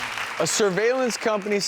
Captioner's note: audience clapping